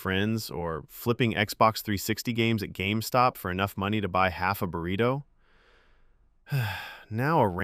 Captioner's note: sighs